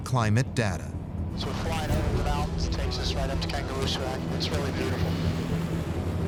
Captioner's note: radio